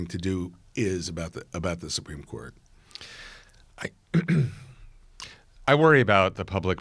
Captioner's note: exhales sharply